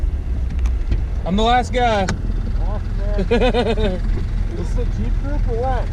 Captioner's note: laughing